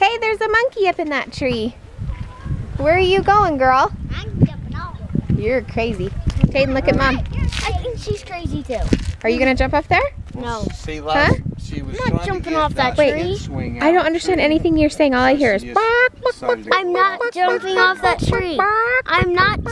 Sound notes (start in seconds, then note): 15.6 makes chicken noise